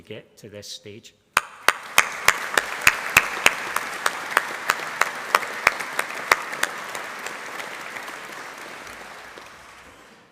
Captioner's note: applause